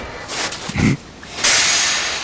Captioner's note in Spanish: sonidos mecánicos; sonido de vapor; Jack gruñe